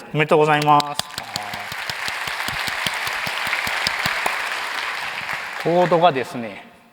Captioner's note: applause